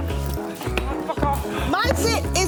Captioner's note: mutters